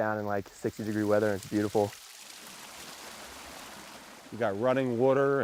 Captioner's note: stream gurgles